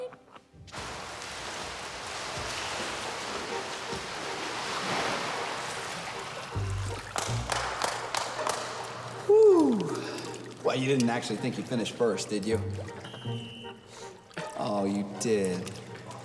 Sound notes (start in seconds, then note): 1.3 water splashing; 7.0 Billy clapping